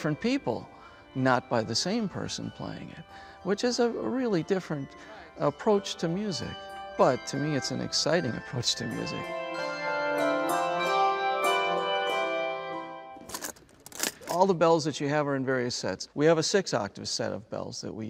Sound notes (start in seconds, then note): 10.0 handbell Music; 13.2 Nats: boxes being unlatched